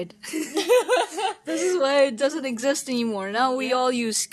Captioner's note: more giggling; bahahahaha